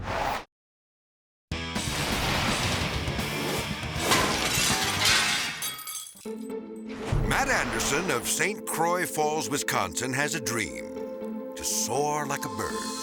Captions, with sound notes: (hard rock music) (metal clattering) (glass shatters) (whimsical music) Matt Anderson of St. Croix Falls, Wisconsin has a dream to soar like a bird.